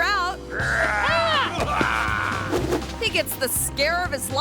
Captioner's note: prankster growling